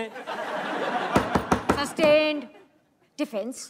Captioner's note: All laughs; Gavel bangs